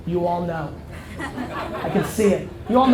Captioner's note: audience laughter